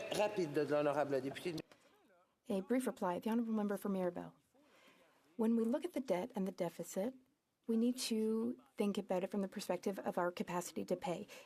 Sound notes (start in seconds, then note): 5.2 speaking French